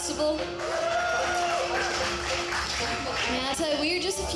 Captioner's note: audience cheering